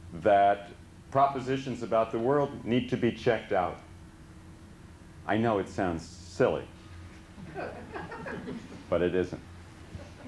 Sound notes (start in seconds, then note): 7.4 laughter